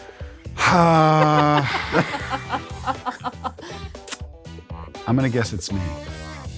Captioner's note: sighs; laughs